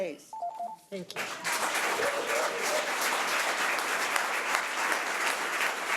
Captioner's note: audience applause